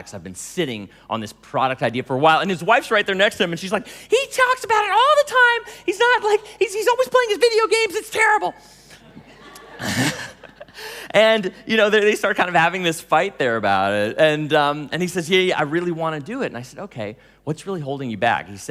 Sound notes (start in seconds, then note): 9.0 laughing